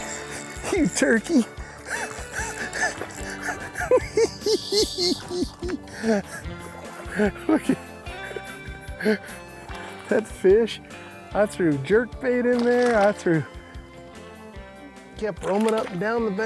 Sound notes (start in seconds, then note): 3.8 giggling